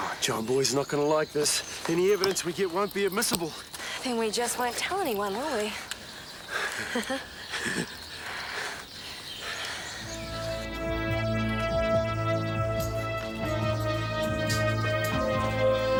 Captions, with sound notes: - Oh, John Boy's not gonna like this. Any evidence we get won't be admissible. - Then we just won't tell anyone, will we? (laughing) (suspenseful music)